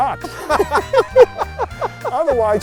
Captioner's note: both laughing